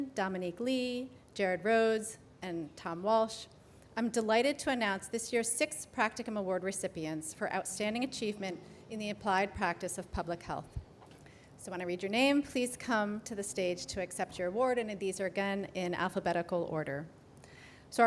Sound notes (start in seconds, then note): none